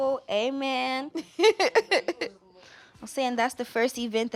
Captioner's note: laughing